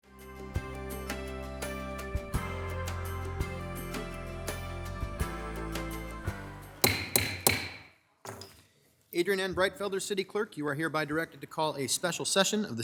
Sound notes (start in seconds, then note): 0.1 bright upbeat music; 6.8 gavel banging